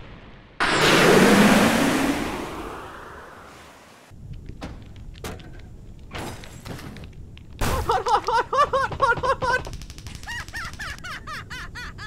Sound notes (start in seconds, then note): 7.5 KRILLIN yells "Hot!" repeatedly; 10.2 ??? laughs